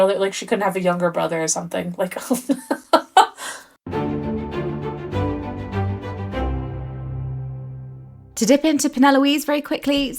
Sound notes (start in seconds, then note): 2.9 laughing; 3.8 dramatic music